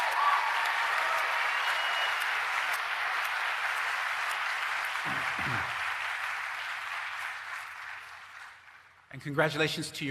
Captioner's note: applause